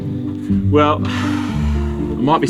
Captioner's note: sigh